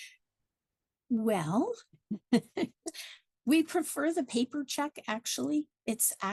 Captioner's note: laughs